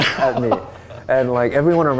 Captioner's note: laughing